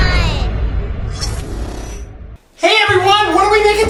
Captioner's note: whooshes